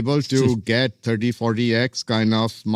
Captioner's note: laughs